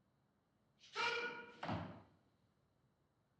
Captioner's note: man shouts in turkish